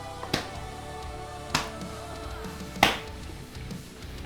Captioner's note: leg slapping